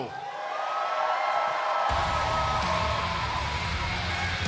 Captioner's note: cheers & applause